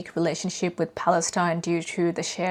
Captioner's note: none